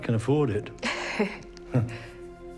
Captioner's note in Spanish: Ambos se ríen